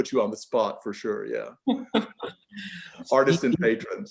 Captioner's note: laughing